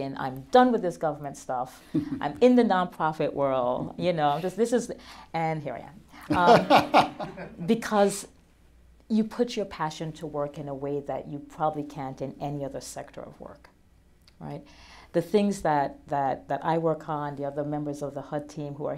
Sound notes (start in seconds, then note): 6.3 laughter